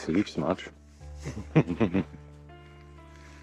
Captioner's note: laughs